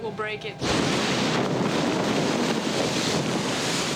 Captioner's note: ice breaking